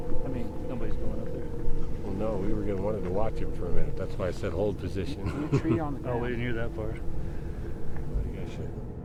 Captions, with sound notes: - I mean, nobody's going up there. - No, we were getting wanted to watch him for a minute. That's why I said hold position. (Chuckles) - New tree on the path. - Oh, we didn't hear that part.